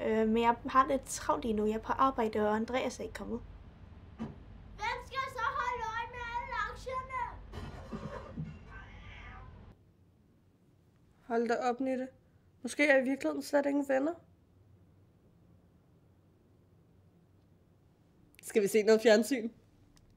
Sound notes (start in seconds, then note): 7.7 rumbling; 8.6 cat screams